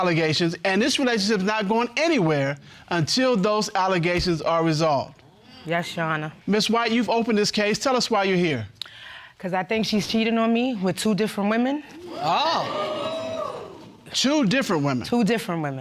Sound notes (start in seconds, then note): 12.0 audience exclaiming